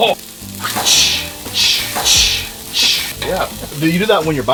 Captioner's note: cooking sounds